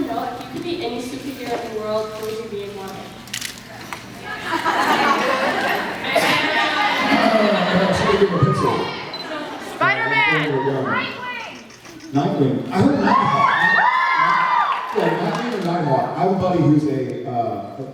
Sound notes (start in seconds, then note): 3.6 hubbub; 10.5 hubbub; 12.9 cheers